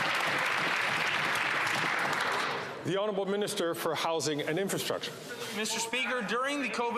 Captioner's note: some Applause